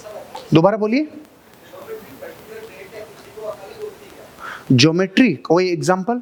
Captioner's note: chattering